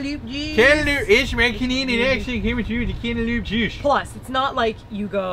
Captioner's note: silly accent; silly canadian accent